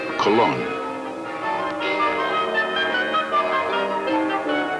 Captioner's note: church bell ringing